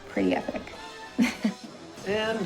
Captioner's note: laughs